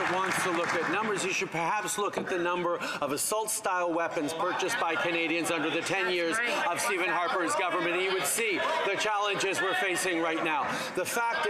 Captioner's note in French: voix de l'interprète